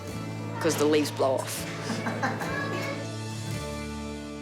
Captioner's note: laughter